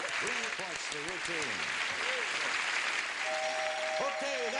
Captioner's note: applause